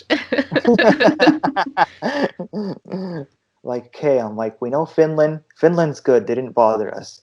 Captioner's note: laughter